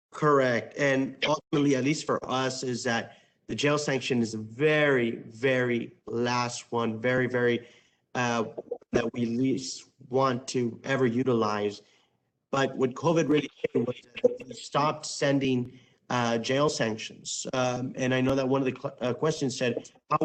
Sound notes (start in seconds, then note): 13.8 distorted speech